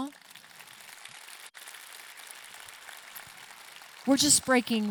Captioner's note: audience clapping